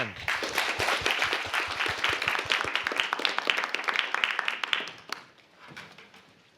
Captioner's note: applause